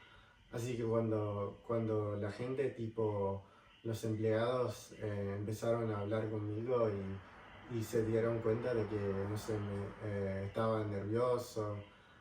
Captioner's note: in Spanish